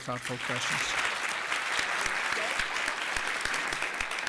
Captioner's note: applause